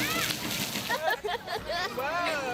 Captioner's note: laughter